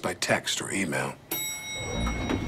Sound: chime

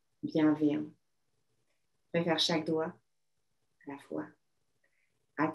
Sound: speaking French

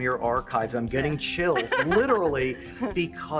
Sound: she laughs

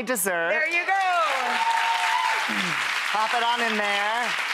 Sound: audience applauds

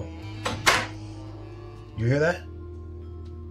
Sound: door crackling

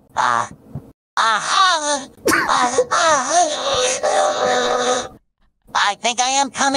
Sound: robotified moaning

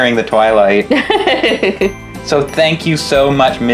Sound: laughing

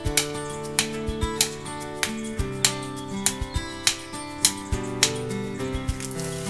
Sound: hammering

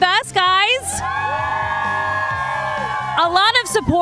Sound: crowd cheering

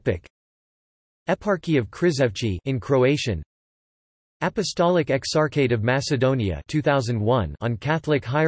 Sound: in Croatian

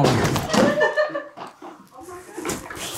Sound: producer laughs

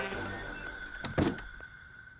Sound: door closes

